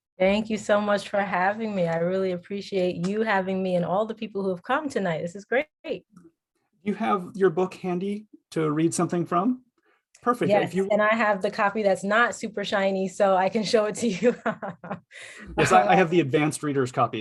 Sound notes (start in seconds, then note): 14.3 chuckles